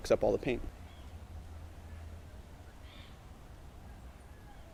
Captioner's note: birds chirping